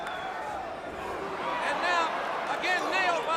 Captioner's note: crowd cheering